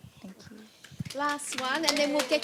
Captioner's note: audience applauds